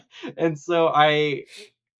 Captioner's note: laughing